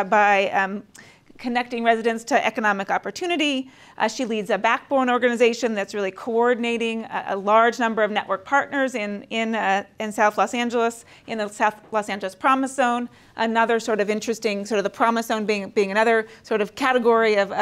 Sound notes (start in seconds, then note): none